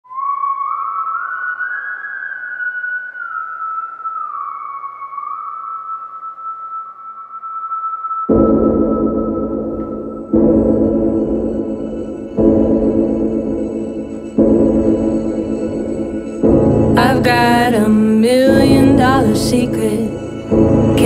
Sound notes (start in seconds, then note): 0.0 whistling music; 8.6 gong banging